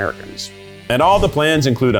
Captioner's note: graphics whooshing